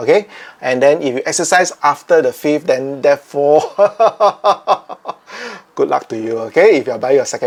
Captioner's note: evil laughter